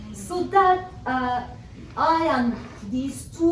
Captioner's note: none